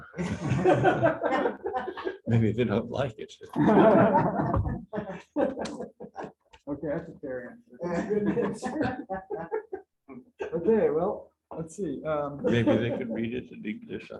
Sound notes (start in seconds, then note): 0.0 laughter; 3.5 laughter; 7.8 laughter